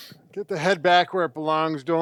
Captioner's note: inhaling